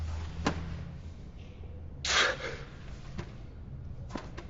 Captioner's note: groaning, coughing